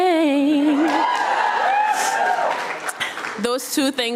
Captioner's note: audience cheering